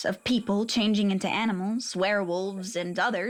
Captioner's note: none